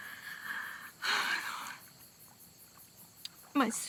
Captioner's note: sighs